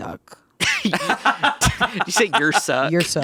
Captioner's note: laughs